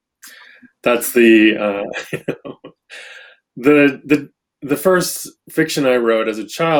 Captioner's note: laughs